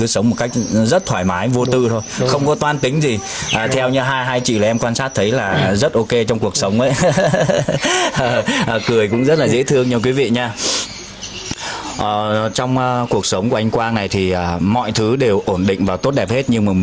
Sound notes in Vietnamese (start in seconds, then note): 6.8 tiếng cười; 10.5 khịt mũi